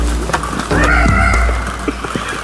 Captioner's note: screams